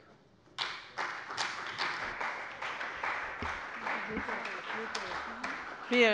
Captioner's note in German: Beifall bei der CDU und dem BÜNDNIS 90/DIE GRÜNEN